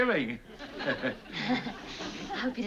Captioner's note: chuckles